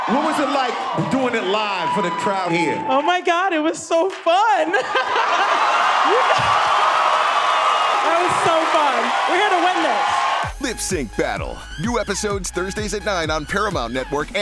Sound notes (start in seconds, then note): 4.3 crowd cheers